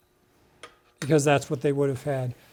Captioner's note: skillet clanks